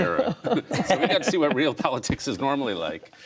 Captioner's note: laughter